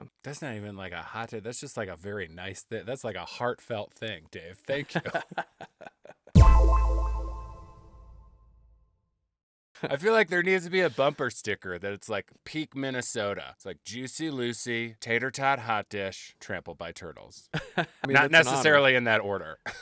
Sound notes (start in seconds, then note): 5.0 laughs